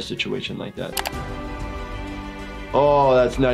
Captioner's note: triumphant music; computer mouse clicking